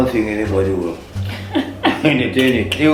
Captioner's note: laughs